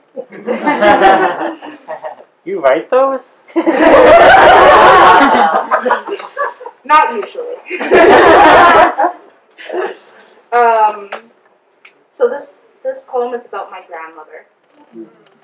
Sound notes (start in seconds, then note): 0.2 audience giggles; 0.3 audience laughter; 7.4 audience laughter